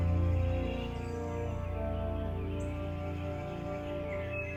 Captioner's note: birds chirping